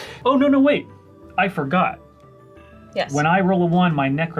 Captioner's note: none